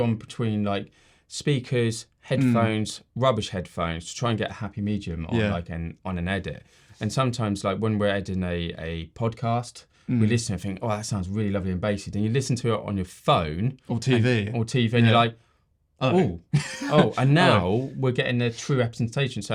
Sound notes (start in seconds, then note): 16.1 laughing